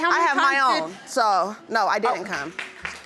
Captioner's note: audience clapping